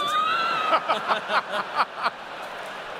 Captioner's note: laughter